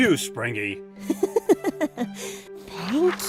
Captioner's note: chuckles